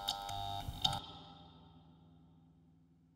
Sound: erratic electrical buzzing; buzzing stops, reverberates

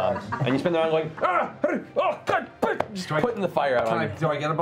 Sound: yelping

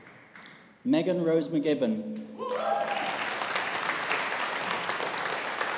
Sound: audience applauding

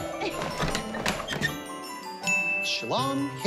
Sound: door opening

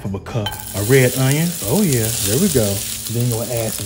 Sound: onions sizzling

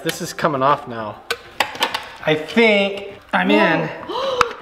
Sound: metal clicks and scrapes

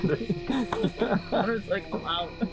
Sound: laughing

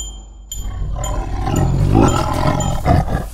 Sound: roar

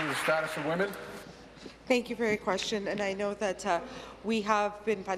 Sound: applause

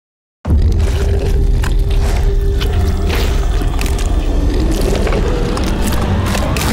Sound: dark dramatic music; squishing

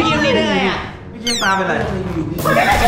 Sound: pat

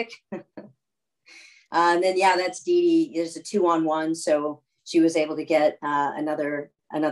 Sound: laughter

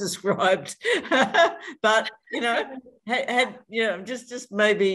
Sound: general laughter

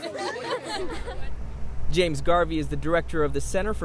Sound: laughter

